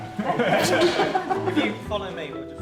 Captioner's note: group laughs